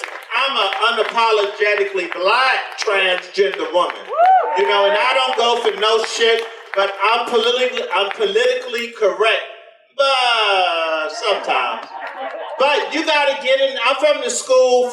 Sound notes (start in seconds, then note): 2.6 audience applause continues; 10.9 audience laughter